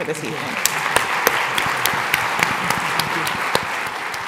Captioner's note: applause